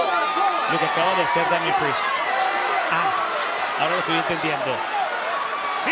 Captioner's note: crowd cheering; commentators speaking Spanish